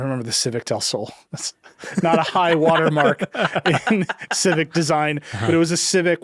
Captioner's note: chuckles